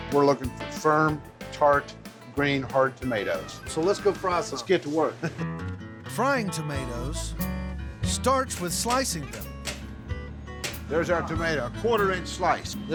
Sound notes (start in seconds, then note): 8.4 chopping sound